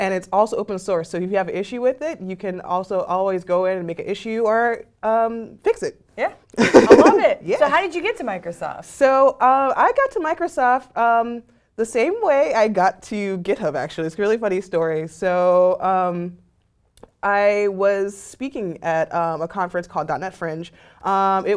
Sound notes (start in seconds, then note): 6.6 laugh